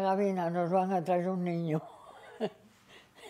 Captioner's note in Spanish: Ríe